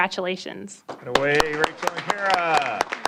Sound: applause

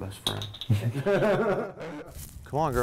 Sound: laughs

